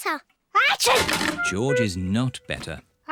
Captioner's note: sneezes